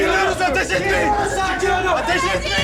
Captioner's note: students shouting